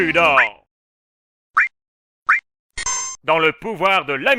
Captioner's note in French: bruitages choix menu RPG classique